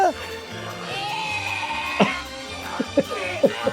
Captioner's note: laughing; Dee retching; Charlie laughing